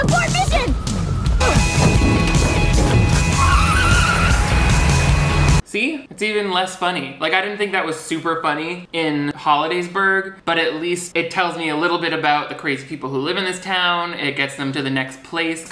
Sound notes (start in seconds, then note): 1.7 upbeat music; 3.0 car tires squealing